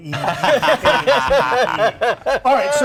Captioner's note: laughter drowns out dialog